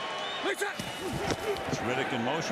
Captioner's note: whistle